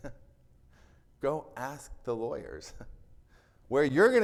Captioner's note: chuckles; chuckles